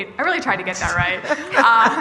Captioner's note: laughter